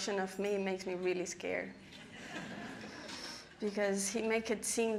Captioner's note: audience laughing